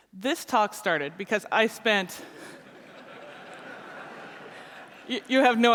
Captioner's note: laughter